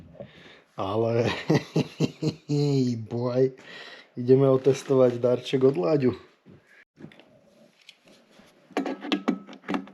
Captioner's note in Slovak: smiech